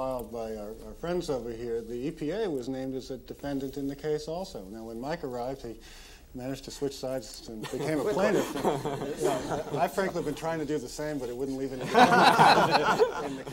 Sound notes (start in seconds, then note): 7.6 all laughing; 11.7 all laughing